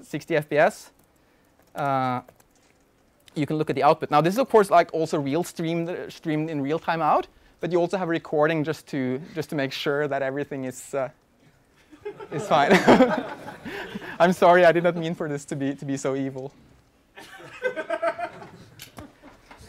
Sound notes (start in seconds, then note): 12.0 laughter from audience